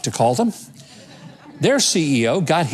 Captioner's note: audience chuckling